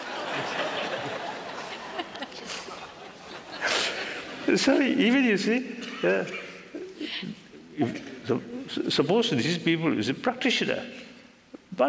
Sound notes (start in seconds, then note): 2.7 laughter